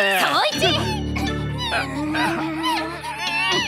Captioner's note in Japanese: コロンのもがく声